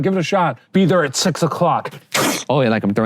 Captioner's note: breaking sound